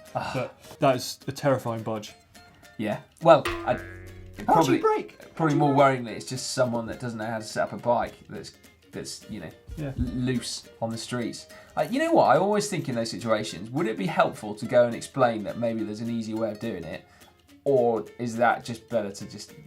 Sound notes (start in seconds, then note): 3.4 spring twangs